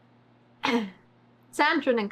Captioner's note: clears throat